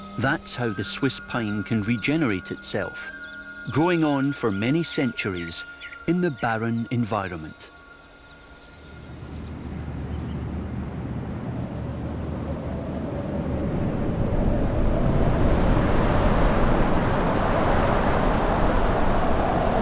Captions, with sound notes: That's how the Swiss Pine can regenerate itself, growing on for many centuries in the barren environment. [wind blusters]